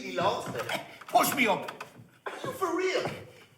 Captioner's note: laughing